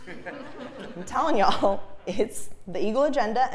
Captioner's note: laugh